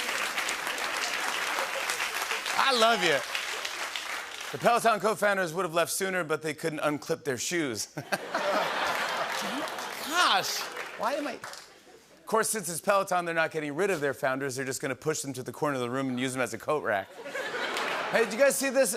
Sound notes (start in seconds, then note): 7.9 laughter